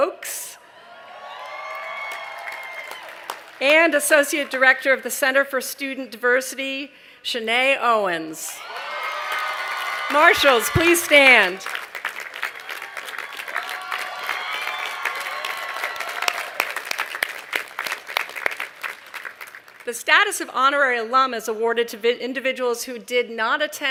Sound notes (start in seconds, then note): 0.6 cheering; 10.1 cheering